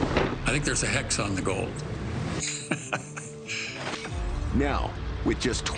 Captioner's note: laughs